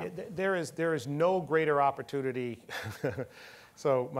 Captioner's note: laughing